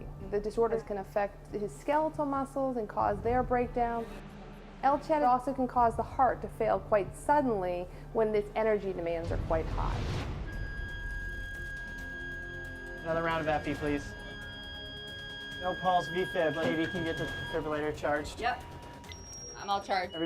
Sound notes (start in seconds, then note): 11.1 machines beeping; 14.1 machines Beeping